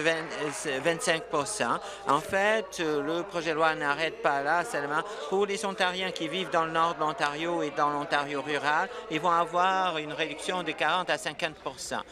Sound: applause

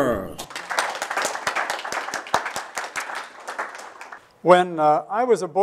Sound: applause

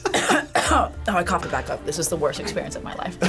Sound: laughs; coughs

